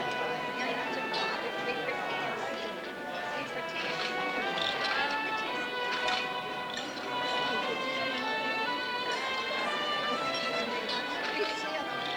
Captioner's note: background chatter